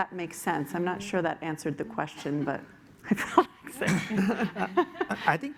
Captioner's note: laughs